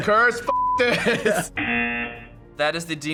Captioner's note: buzzer